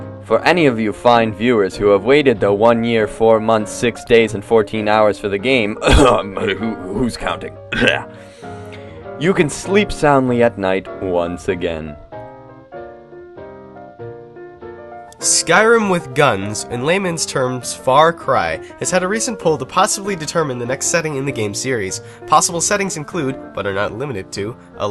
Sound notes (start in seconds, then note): 7.7 cough